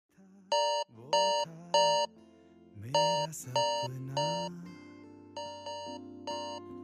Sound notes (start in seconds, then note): 0.0 alarm rings: 6:58 am